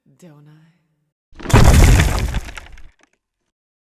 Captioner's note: brief silence as debris falls